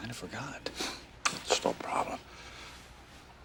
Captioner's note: scoffs